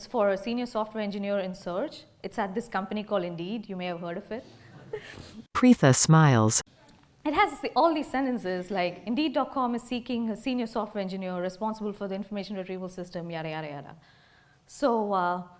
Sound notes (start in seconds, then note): 4.7 laughter